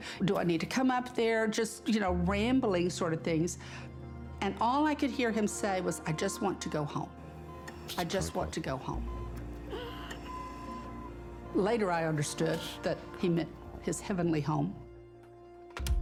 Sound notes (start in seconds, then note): 9.3 hospital machine sounds; 9.6 wheezing breaths